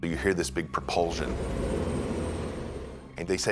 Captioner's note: sentinels whirring